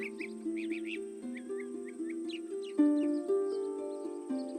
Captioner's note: birds singing